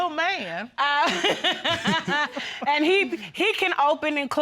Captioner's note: laughing